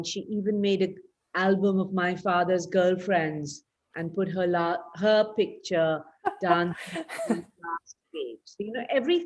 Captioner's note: laughs